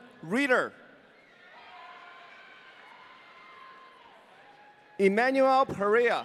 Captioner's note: audience cheering